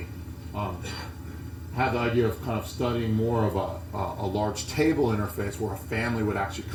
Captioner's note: cough